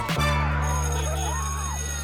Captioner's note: children screaming excitedly; school bell ringing